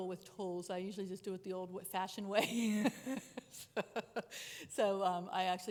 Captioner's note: chuckles